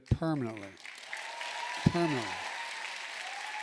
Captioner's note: applause